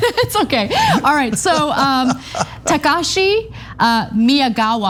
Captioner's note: laugh